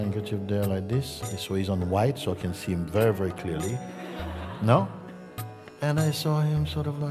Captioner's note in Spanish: risas